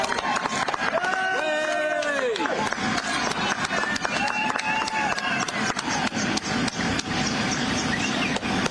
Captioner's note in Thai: ปรบมือ